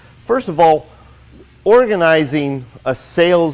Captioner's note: none